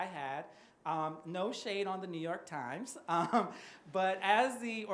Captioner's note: chuckles